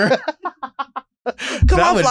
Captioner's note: both laughing